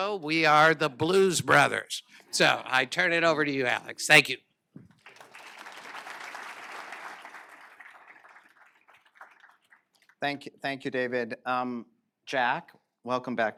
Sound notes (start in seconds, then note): 7.4 applause